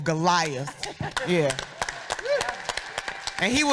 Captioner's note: audience applauding